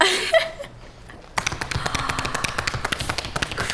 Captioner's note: gasssssssssp